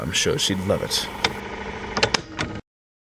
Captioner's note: tape recorder stopping